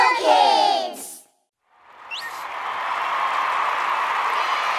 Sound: applause

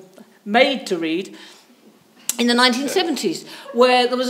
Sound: audience members chuckle

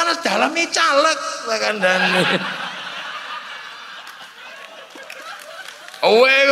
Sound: laughs

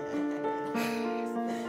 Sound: exhales

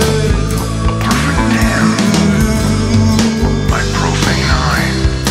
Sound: radio Voice

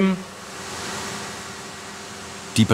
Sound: machine noise

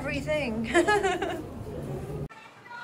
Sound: laughs

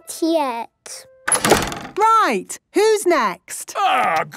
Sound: doors slamming

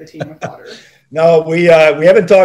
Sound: John laughing

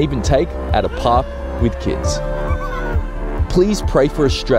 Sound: children laughing

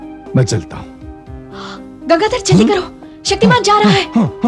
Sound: gasps

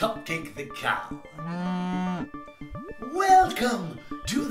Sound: moo sound

